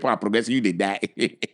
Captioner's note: laughing